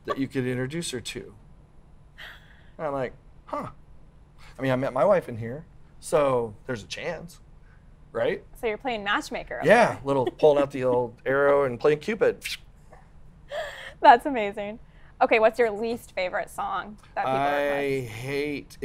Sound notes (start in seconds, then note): 1.9 laughs